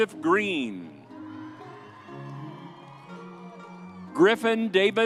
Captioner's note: whimsy music continues; audience cheers